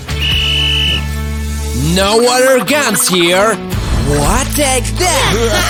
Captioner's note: whistles